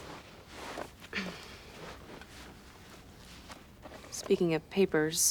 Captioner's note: coughs